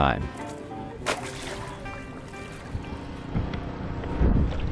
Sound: water sloshing

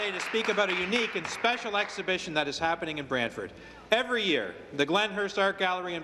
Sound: cheers and Applause

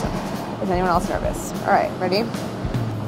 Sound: sighs

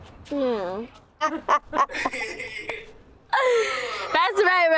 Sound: laugh

